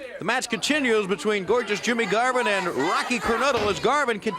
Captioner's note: crowd chatter